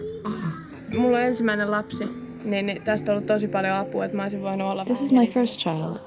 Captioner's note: speaking foreign language